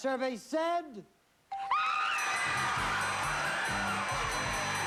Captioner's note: screaming and cheering